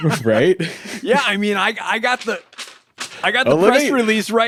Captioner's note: paper rustling